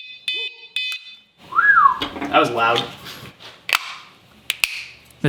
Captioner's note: beep beep beep